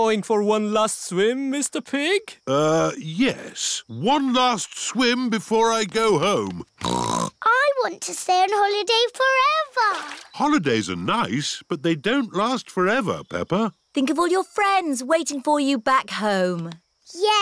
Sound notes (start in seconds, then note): 6.7 snorts